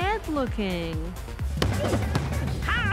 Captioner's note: punching sounds